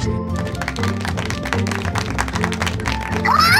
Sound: claps

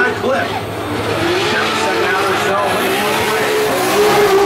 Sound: car engines revving

